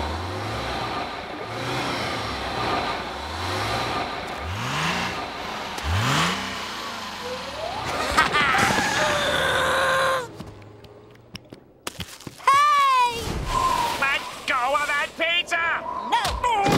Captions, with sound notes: Haha! [groaning] Hey! - Let go of that pizza! - No!